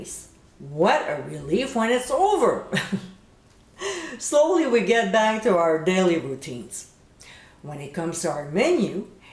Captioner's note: giggle